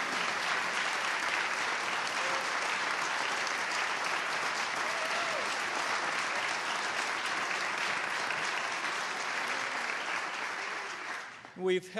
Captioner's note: applause